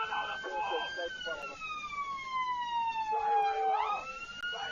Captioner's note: police radio; muffled shouting